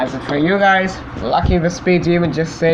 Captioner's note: none